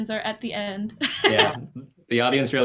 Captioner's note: laughs